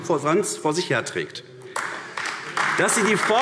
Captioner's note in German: Beifall AfD